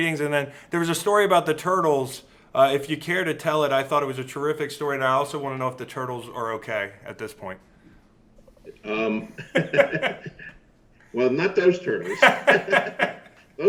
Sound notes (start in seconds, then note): 9.0 laughs; 12.0 both laughing loudly